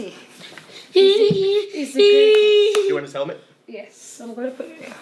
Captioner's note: whining